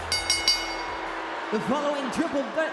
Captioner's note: bell dings